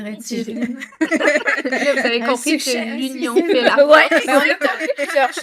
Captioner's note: laughs